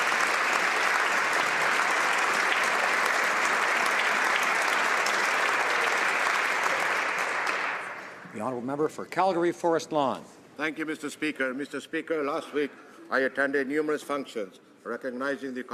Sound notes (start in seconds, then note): 2.5 applause